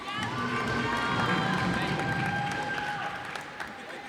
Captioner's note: cheers and applause